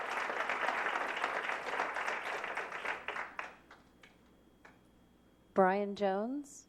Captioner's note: applause